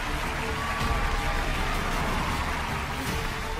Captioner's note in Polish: oklaski